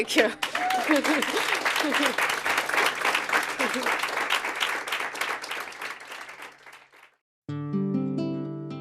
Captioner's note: applause